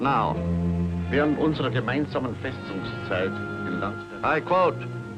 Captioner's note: speaking in German